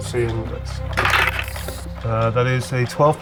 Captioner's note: die rattling